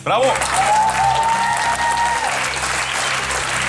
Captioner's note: applause